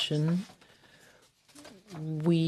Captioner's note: speaking French